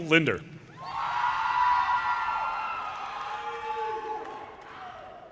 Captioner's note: audience cheers and applause